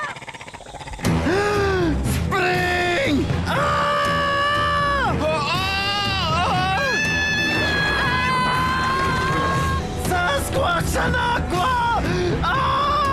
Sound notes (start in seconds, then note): 0.0 gasps; 3.5 all screaming